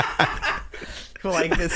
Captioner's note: laughing